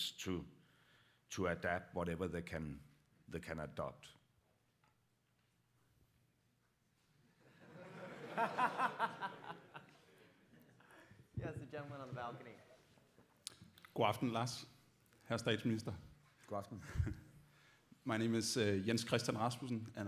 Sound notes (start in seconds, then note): 7.4 laughter; 14.4 dutch speech